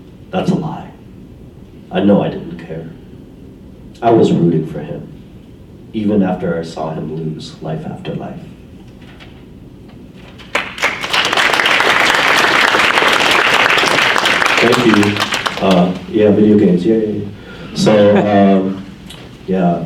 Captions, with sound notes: That's a lie. I know I didn't care. I was rooting for him, even after I saw him lose life after life. (audience applauds) Thank you. Yeah, video games, yay.